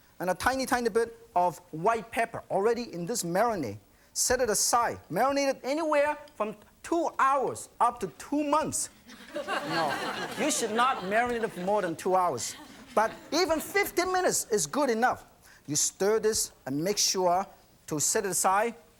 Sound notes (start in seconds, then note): 9.0 laughter